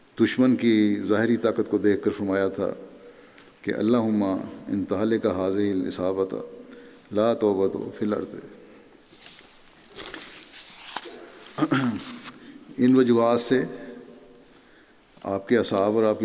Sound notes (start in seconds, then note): 11.1 Arabic